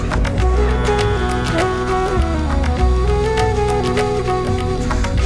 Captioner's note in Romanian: Aplauze